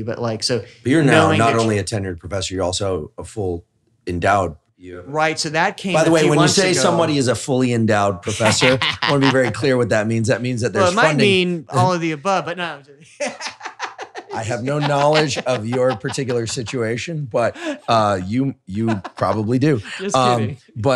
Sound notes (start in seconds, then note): 8.2 laughs; 14.0 laughs